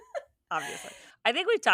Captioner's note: laughing